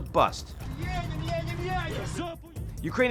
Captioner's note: troops speaking in foreign language